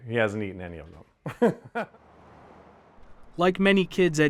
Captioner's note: laughing